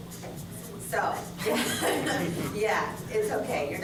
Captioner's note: laughter